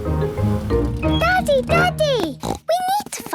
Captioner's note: snorts